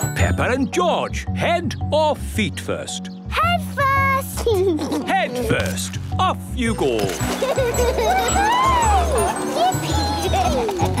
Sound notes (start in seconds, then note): 4.4 giggles; 7.2 giggling